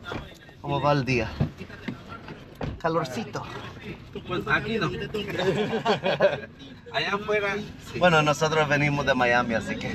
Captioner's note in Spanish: risas